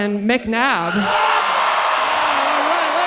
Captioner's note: audience cheering loudly